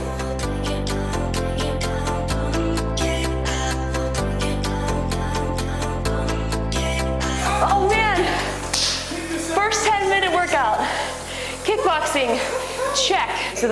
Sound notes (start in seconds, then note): 0.2 upbeat pop music; 8.7 clapping